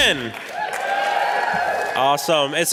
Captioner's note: applause